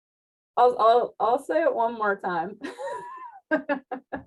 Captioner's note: laughs